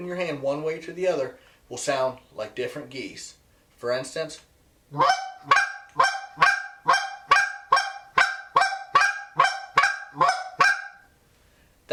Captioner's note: goose call